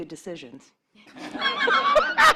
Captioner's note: laughter